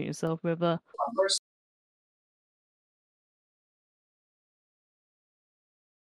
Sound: laughs

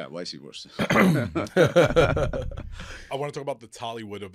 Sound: all laughing

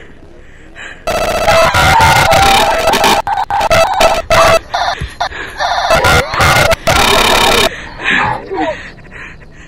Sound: agonising scream, heavy glitching

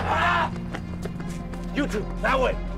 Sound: Dmitri roars

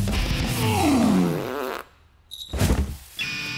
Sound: farting

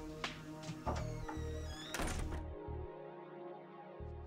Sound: creaking

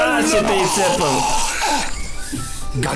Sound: weird male orgasam

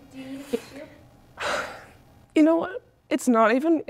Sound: sighing

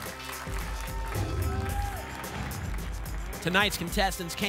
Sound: applause and cheering; whoosh

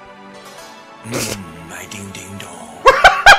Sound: snickering

